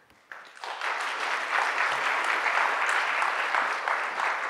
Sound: applause

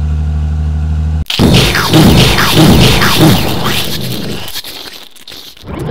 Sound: explosions; motor sputtering

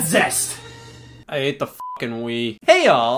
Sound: beep

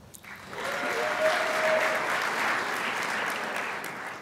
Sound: crowd applauds

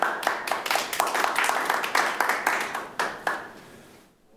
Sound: attendees applaud

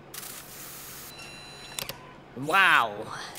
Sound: technological sounds

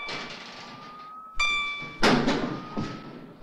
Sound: tingling

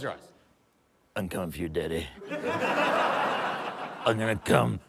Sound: laughter

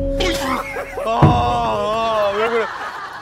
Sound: Kwang Soo bursts out laughing

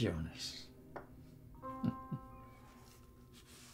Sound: chuckles

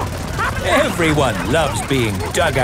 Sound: all laughing

